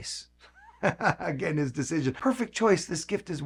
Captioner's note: laughing